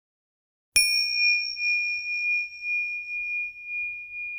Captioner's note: bell chimes